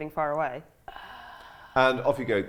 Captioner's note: sighs